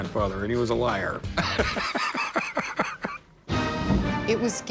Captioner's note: laughs